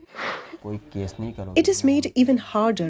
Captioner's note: speaking Gujarati